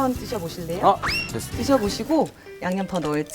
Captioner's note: rushing